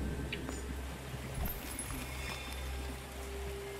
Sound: sparkle

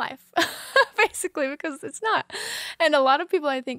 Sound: laughing

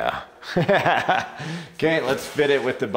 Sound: instructor laughs

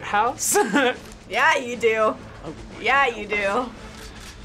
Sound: chuckles

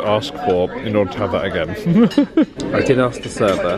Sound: chuckles

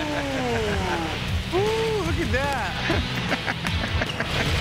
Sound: exclaims excitedly; laughs happily; laughs happily

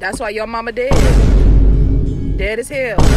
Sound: thud booming

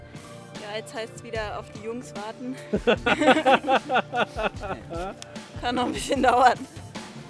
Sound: laughs

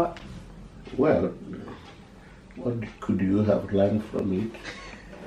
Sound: laughs

